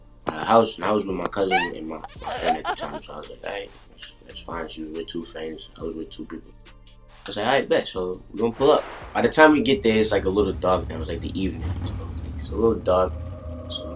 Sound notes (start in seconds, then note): 1.4 woman cries; 2.0 man smooches